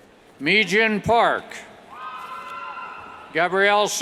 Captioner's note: cheers